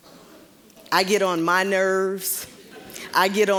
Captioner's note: audience chuckling